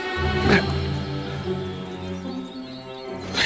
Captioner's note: grunts; ominous music